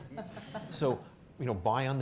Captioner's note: audience chuckling